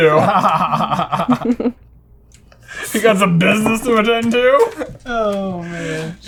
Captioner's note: laughter